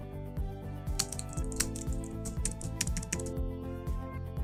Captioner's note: keyboard clanking; soft ambient music